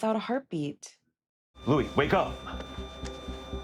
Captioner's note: ecg machine flatlining